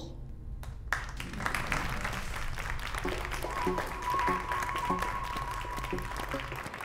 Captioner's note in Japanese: 拍手